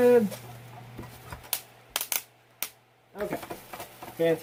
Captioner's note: crackling